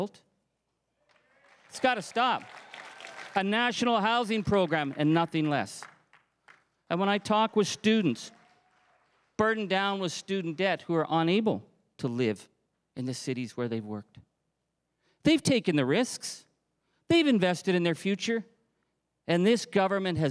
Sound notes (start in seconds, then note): 4.0 crowd cheering and applauding